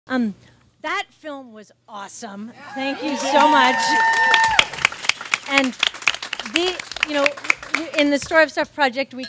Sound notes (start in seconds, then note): 2.9 audience cheers and claps